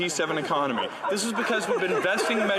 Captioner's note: some Laughter